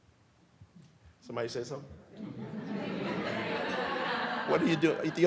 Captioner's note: audience laughs